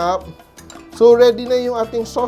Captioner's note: clang